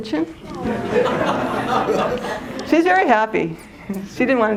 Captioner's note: laughter